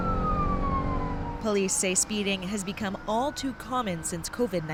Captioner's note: sirens